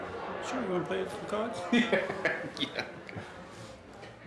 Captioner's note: laughing